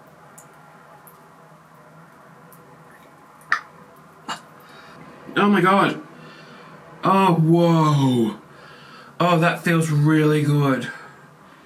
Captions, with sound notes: (gags) Oh my god, oh whoa. Oh that feel really good.